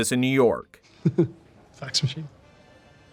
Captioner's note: laughs